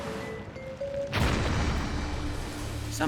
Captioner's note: loud eruption